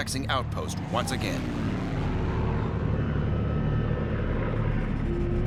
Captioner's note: engine roaring